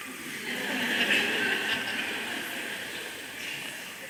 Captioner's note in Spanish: Risas